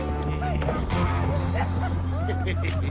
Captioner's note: men laughing